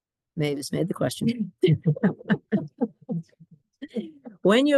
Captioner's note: laughter